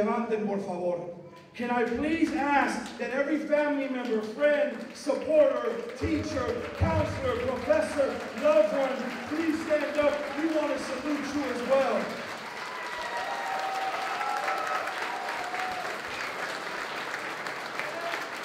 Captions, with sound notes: Can I please ask that every family member, friend, supporter, teacher, counselor, professor, loved one, please stand up. We want to salute you as well. [APPLAUSE]